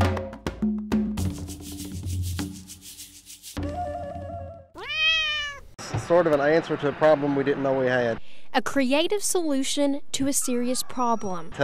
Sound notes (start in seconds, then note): 1.2 upbeat music; 4.7 meow